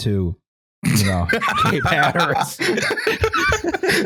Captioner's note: laughs; snorts; laughter